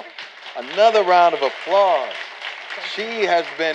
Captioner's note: applause